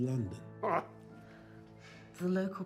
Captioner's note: Frederick laughs